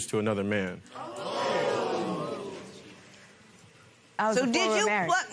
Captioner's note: spectators gasp